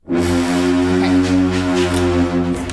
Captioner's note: paper crunching; horn blowing